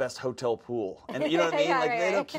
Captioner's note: host laughs